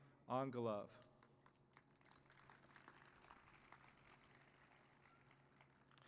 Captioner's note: applause